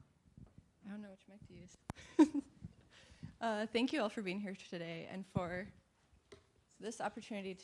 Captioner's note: laughs